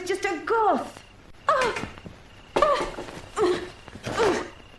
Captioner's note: Barbra whimpering